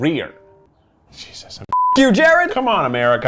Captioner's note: beeps